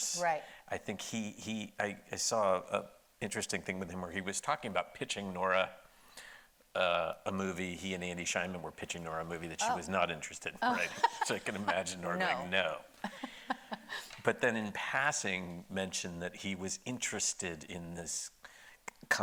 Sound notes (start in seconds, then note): 10.6 laughing; 13.0 laughs